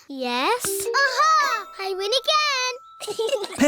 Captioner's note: chuckles